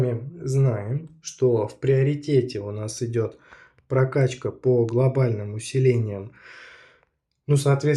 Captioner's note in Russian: тяжело вздыхает